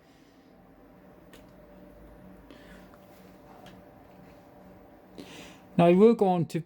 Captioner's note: fans spinning in the background